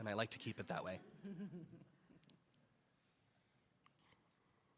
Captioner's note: attendees laughing